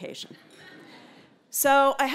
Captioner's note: laugh